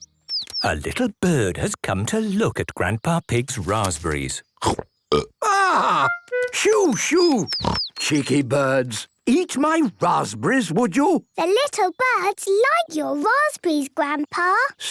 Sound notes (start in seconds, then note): 5.1 burps